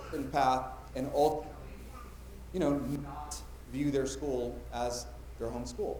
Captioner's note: mic cutting out; mic cutting out